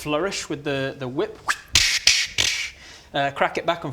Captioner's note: flourishy whippy noises